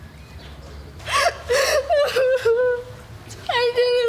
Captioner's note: crying